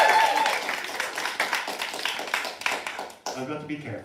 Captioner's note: applause